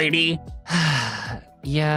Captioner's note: sighs